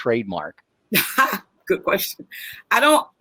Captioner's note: laughs